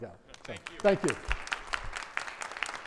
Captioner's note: audience applauding